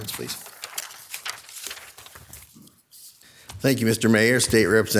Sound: paper rustling

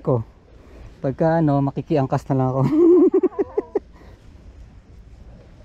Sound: laugh

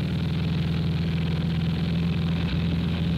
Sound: engines roaring

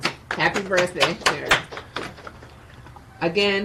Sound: members applauding

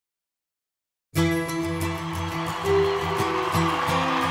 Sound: audience cheering

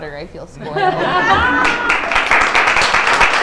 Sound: laughter; clapping

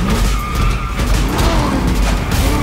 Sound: intense music; tires screeching; engines revving

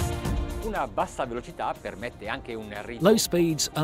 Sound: speaking in foreign language

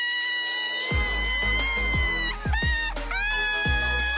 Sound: screaming, laughing

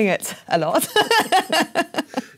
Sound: laugh

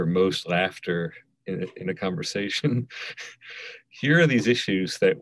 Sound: laughing

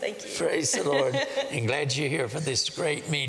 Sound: laughter

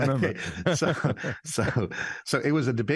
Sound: both laughing

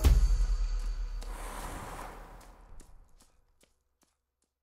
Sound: blowing

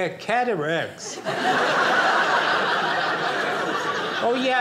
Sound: audience laughing

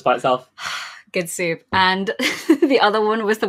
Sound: sighs; laughs

